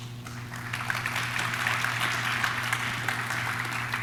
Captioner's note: audience claps